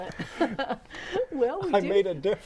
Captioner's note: laughing